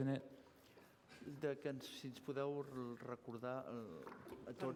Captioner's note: non-english speech